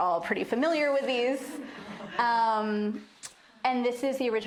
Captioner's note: laughter